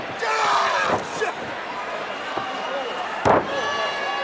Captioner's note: groans